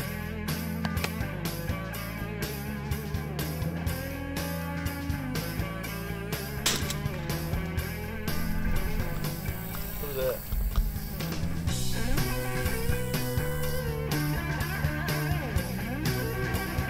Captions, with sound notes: (Gun fire) - What was that? (Rock country music)